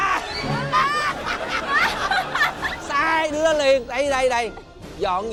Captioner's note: laugh